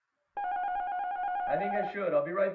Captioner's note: apartment buzzer